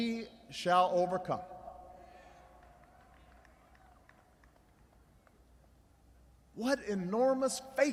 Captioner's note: applause